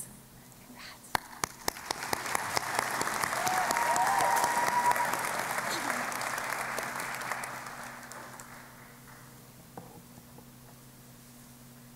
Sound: applause

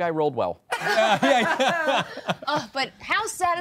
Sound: all laughing

